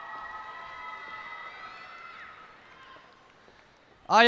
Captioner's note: cheers and applause